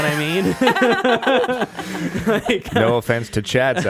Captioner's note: laughing